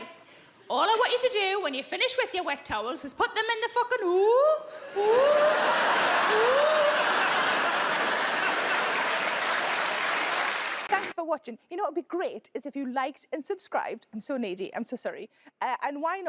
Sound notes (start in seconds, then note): 4.9 audience laughing; 9.1 audience applauding